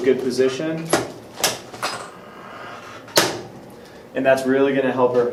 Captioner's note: drop table clunks